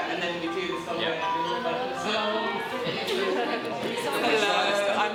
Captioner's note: general chatter and hellos